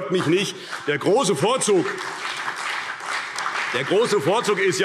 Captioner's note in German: Beifall CDU - Zurufe SPD